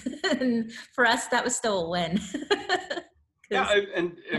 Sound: laughs; laughs

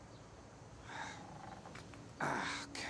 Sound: grunts

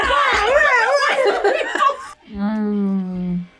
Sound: both laugh

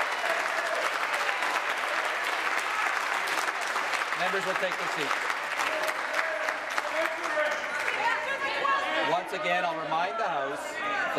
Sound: applause

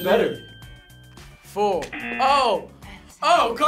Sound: buzzer

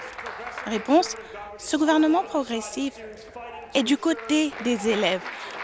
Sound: applause

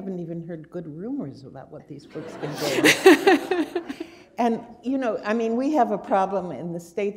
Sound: laughter

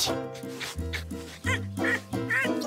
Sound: grunting

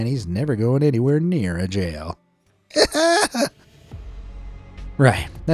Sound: screams

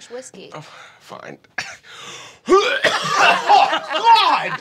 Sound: puking

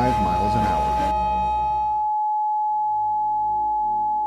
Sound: emergency tone

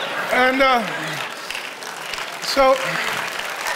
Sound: audience laughing and applauding

